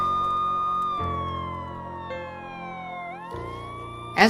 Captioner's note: siren wailing